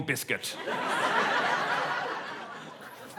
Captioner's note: laughter